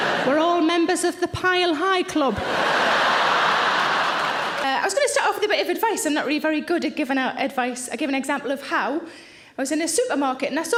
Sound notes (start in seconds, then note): 2.4 audience laughing